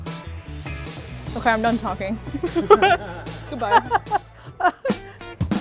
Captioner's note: laughs